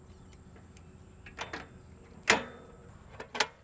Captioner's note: wheelchair parts clicking into place